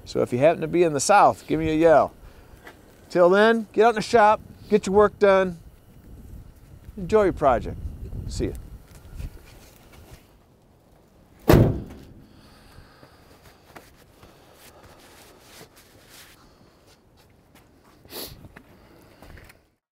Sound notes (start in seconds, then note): 11.4 hood slamming